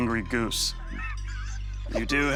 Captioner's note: laughter